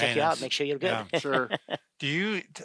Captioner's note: laughing